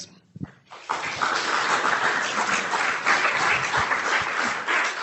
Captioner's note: audience clapping